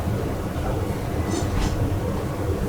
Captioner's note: metallic scrape noise